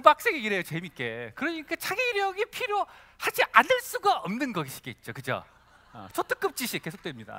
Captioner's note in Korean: 웃음